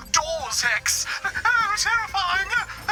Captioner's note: whimpers